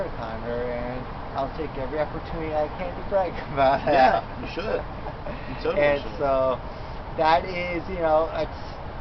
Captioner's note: laughs